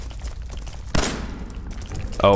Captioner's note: blam!